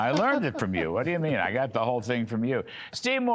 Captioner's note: laughter